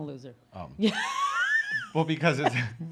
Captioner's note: laughs